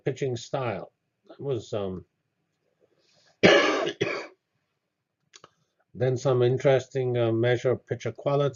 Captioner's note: cough